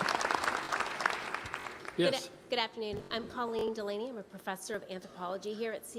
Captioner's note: applause